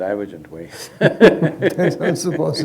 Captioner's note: both laugh